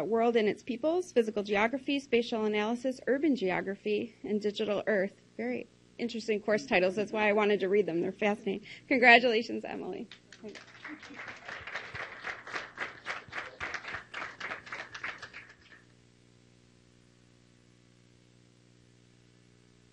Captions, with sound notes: World and its Peoples, Physical Geography, Spatial Analysis, Urban Geography, and Digital Earth. Very interesting course titles, that's why I wanted to read them. They're fascinating! Congratulations, Emily! (clapping)